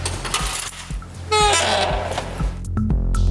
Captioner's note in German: Türquietschen